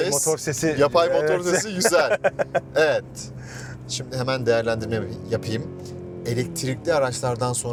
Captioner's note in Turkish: kahkaha